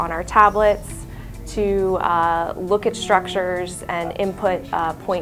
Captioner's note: background talking